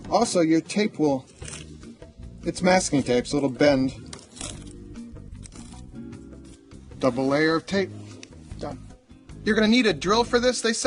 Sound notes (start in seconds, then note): 3.9 upbeat music; 4.0 tape scrunching